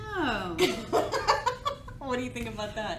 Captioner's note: laughs